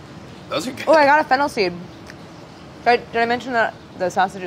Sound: laughing

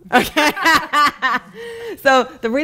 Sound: laughing

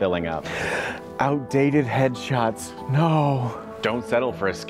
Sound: gasp

